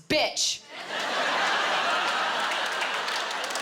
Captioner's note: laughter, applause